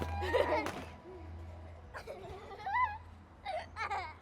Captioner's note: children giggling